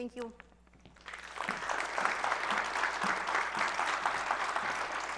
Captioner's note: audience applauds